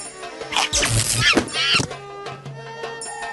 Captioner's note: zapping; monkey screeching